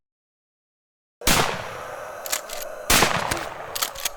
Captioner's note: gunshots